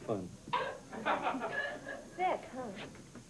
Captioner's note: laughter